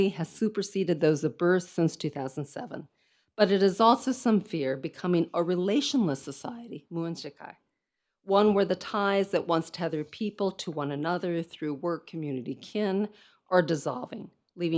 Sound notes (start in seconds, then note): 7.0 speaks in foreign language